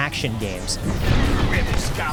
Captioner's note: lasers blasting